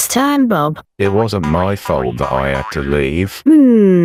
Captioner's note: boinging sound of rabbit